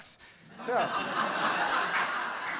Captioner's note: audience laughs; audience member applauds